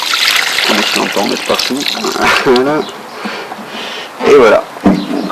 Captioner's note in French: rire